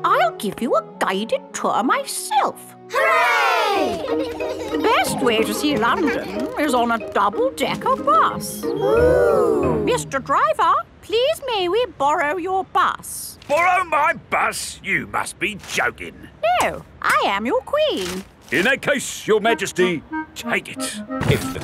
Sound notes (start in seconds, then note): 3.8 giggling; 8.8 kids gasps in awe